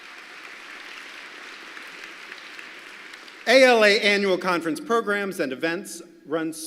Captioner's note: applause